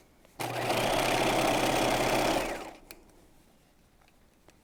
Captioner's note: sewing machine whirs